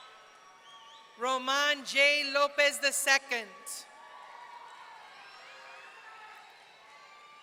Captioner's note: audience cheering